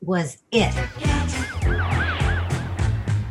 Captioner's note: siren